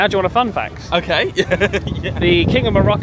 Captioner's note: laughs